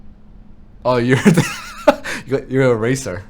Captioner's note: laughing